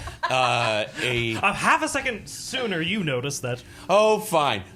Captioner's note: laughing